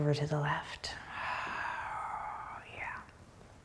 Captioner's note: breathing deeply